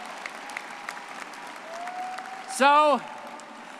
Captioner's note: all clapping